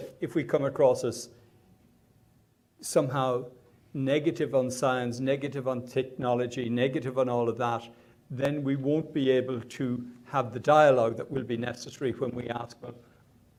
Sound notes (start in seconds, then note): none